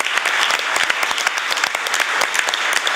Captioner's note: applause